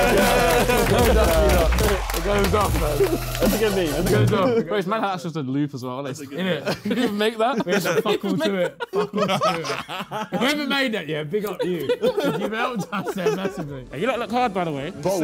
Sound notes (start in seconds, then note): 10.3 laughing; 11.2 Sidemen laughing